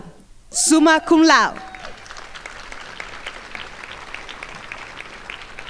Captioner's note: crowd applauding